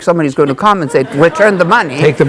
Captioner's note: audience laughing